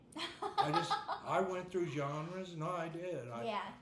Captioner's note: laughing